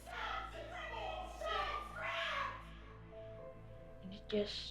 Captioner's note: man, woman arguing, screaming